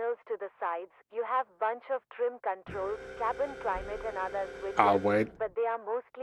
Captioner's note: voice on radio